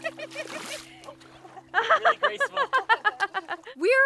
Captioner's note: laughs